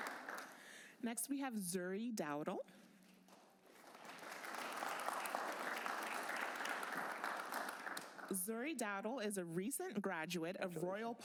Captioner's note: applause